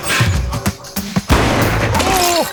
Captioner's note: sound of gunshot